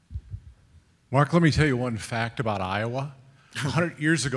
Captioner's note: voiceover